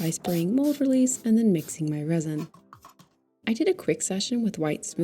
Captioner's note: rattle can spritzes, spatula splashes